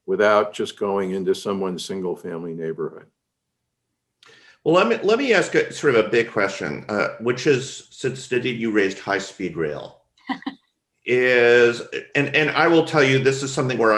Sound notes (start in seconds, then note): 11.1 laughs